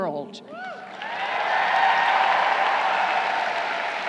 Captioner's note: crowd cheering